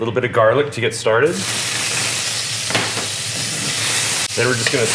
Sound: sizzling

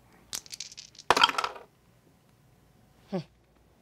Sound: dice clatter

